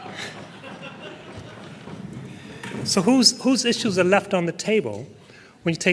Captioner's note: laughter